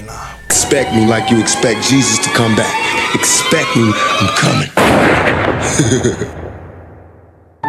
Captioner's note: bang; laughter